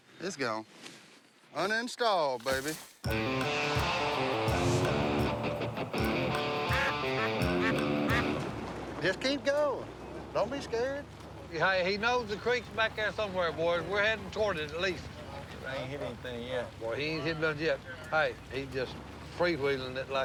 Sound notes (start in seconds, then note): 5.2 quacking